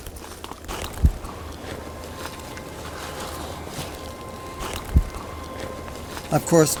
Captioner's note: gentle quiet music; leaves rustling